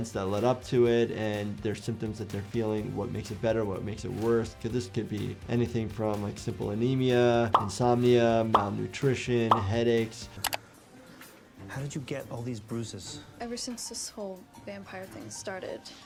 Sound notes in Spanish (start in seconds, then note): 7.5 burbujas estallando; 10.0 clic del mouse